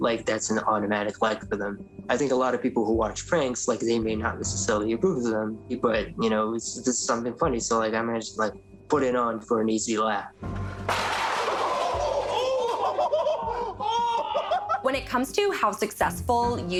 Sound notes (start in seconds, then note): 10.9 guys laughing